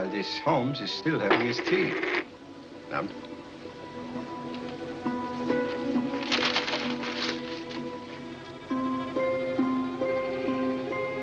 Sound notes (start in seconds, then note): 6.1 paper crumples; 8.7 ominous music